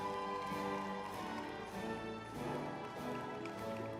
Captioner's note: crowd cheering